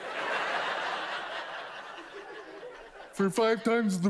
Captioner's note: audience laughs